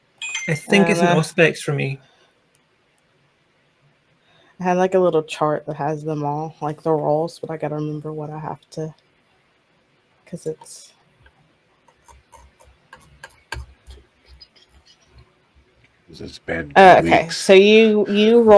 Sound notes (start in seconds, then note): 11.9 clicking, scrolling